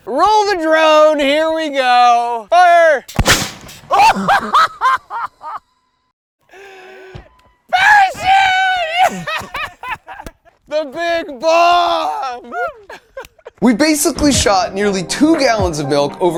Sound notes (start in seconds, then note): 3.1 cannon firing; 3.9 laughing